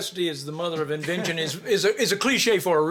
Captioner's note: both chuckling